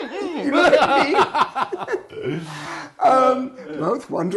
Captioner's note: laughing